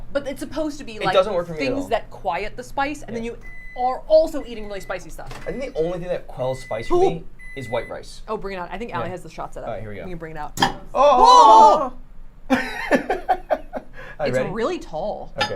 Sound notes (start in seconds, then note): 10.6 dish clanking; 12.5 laughing